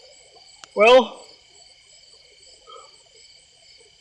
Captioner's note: yawns